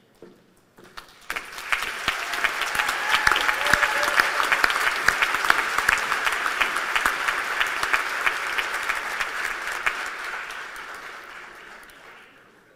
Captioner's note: applause